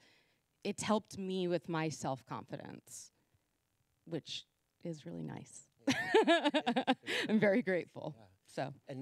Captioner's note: laughing